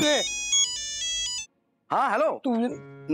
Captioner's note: phone ringing